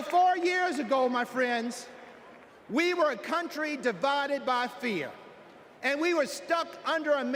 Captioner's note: applause